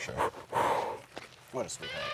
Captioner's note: exhales